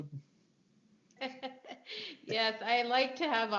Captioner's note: laughing